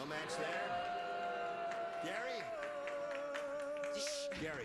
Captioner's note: audience groans